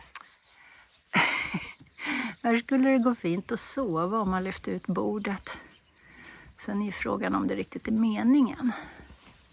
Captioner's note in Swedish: Skratt